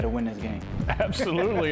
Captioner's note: chuckles